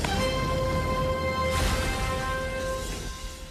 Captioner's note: crash